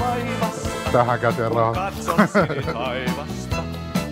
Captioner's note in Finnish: naurua